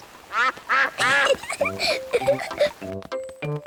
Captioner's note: quacks; giggles